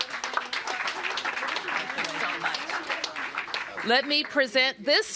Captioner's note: applause